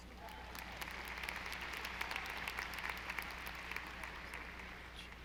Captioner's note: audience applauding